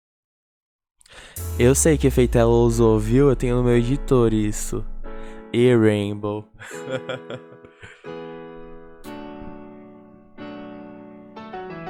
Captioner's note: laughs